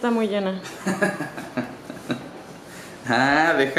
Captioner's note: laughter